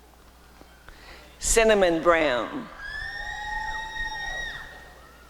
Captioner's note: applause and cheering